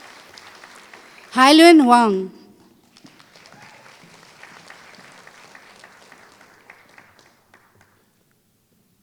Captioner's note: applause